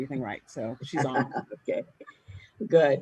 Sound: laughs

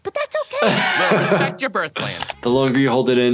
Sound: laughs

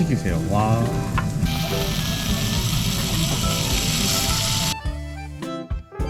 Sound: sizzling

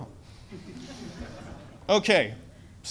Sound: audience laughs

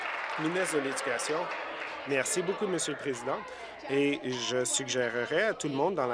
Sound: applause

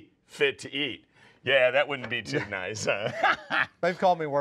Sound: laughs

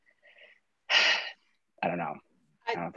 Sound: sighs

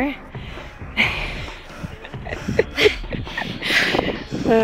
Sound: laughs

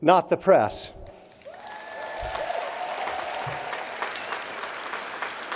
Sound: applause

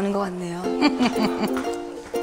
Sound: laughs

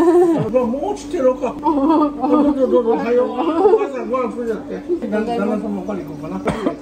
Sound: I can only laugh

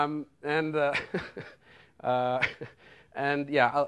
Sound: laughs

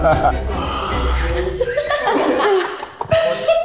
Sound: laughs

